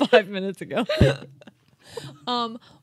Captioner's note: chuckling